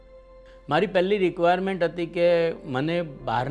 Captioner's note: in Gujarati